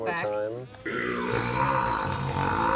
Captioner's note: loud, deep burping